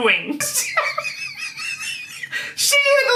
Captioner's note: laughing